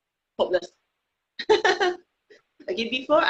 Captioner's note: laughing